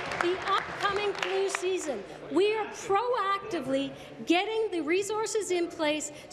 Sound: applause

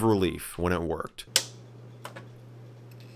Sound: flicking power swtich

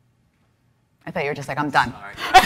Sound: laughs

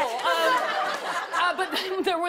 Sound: laughter

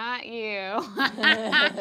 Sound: laughing

